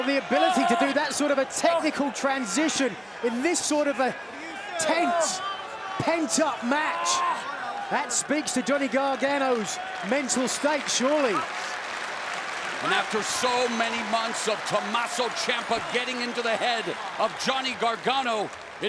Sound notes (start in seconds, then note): 11.7 hands clapping